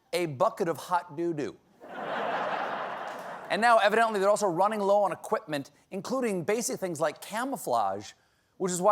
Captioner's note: laughter